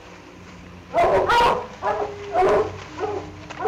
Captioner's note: dogs bark